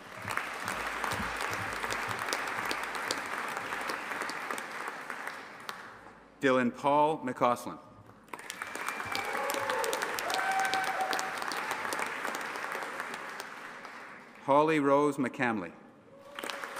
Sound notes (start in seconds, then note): 0.0 audience applauding; 8.3 audience applauding and cheering; 16.2 audience applauding and cheering